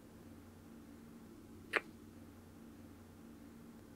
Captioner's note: kiss